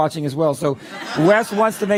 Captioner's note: laughter